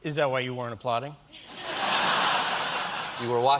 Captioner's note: laughter